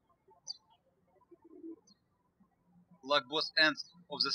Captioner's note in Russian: птички щебечут